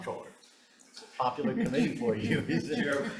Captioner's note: speaker chuckling